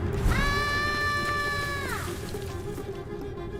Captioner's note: scream